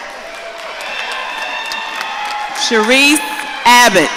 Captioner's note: audience cheering